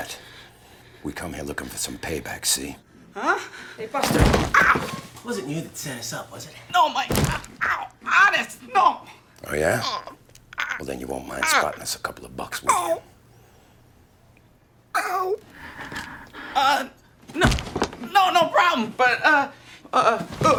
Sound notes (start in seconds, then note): 15.5 breathing heavily